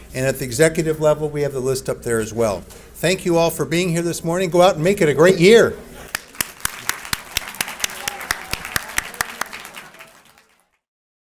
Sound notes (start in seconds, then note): 6.0 audience applauds